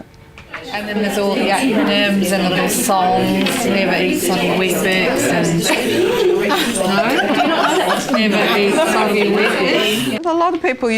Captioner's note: audience chatter